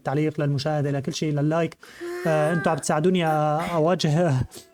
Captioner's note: Akari groans